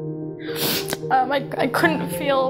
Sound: sniffing

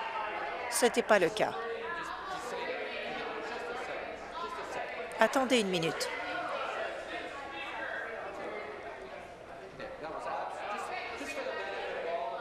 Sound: conversation din

